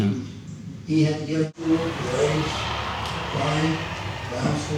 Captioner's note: aircraft engine